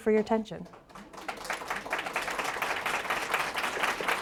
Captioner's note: audience applauds